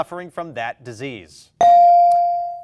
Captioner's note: bell dings